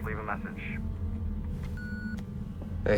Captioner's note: beeping